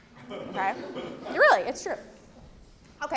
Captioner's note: laugh